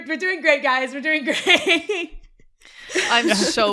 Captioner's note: laughter